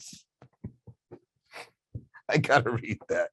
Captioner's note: laughing